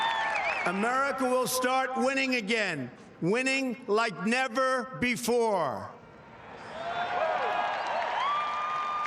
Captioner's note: cheering